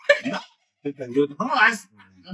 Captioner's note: laughing